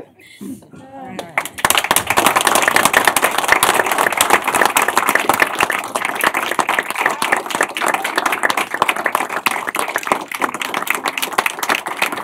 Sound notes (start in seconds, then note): 0.1 applause; 9.3 applause continues